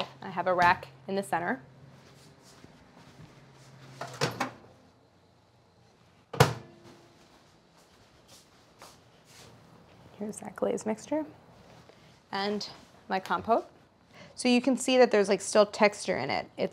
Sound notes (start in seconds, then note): 3.9 microwave opens; 6.4 microwave closes; 7.7 footsteps thudding